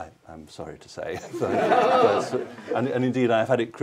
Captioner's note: laughter